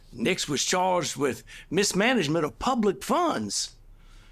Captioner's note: none